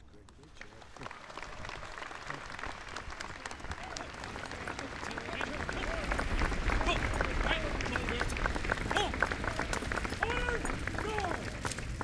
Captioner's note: applause